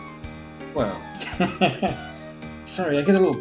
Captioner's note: chuckles